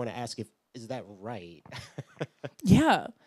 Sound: laughs

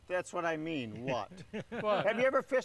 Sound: laughs

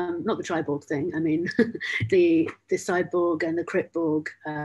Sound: laughs

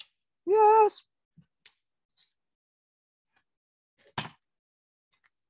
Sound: high voice

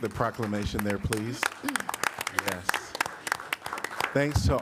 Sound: applause

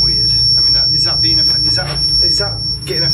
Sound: beeping

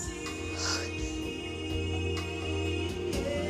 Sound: romantic music playing; Rhonda sighs

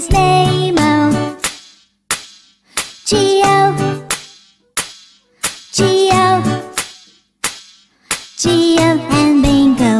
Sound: clap

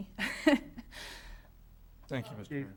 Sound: laughs

